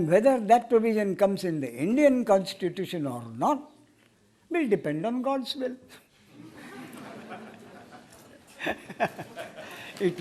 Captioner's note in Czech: smích